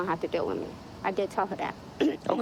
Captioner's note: clearing throat